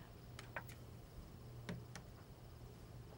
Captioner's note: TV clicks off